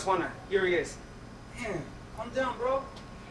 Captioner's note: speaks spanish